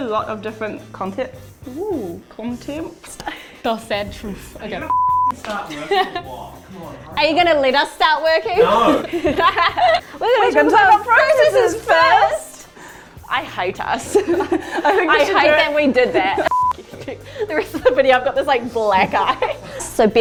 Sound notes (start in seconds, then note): 9.8 talking in unison